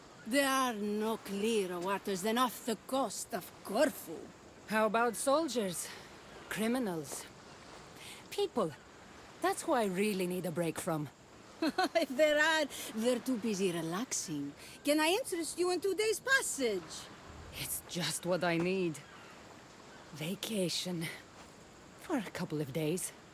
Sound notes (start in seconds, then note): 11.6 laughs